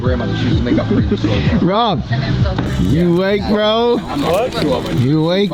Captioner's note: laughs